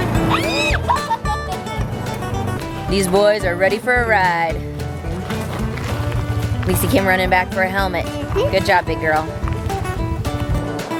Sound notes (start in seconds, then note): 0.2 screams and laughs; 10.8 bright music